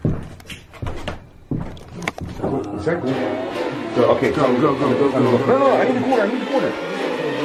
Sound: footsteps

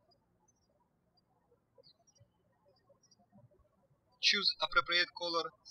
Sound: birds chirping

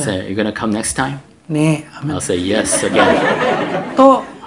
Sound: audience Laughter

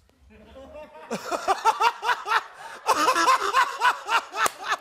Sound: laughing

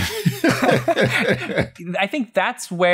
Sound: laughter

